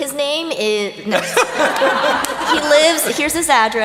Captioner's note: laughter